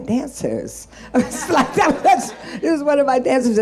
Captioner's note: group laughing